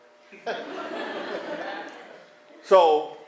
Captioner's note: laughter